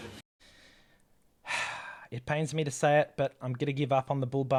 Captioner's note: sigh